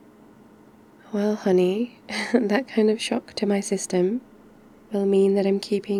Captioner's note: laughs